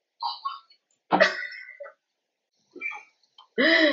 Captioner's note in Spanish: risas